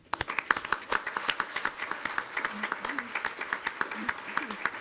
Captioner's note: audience applauds